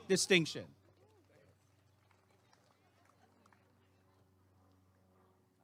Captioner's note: applause and cheering